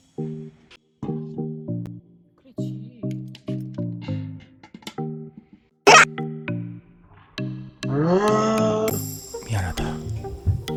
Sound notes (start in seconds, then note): 8.0 screaming brother